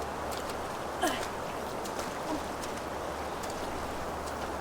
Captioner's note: Anna grunting